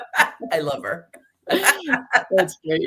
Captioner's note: laughing